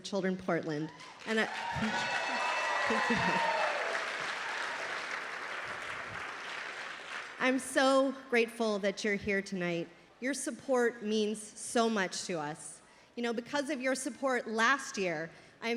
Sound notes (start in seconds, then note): 0.9 applause